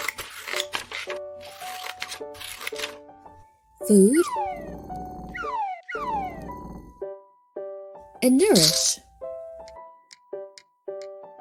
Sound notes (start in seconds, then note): 0.0 paper rustling; 1.4 scissors slashing; 4.8 food whistling and sliding; 9.0 grains crackling; 10.1 beak tapping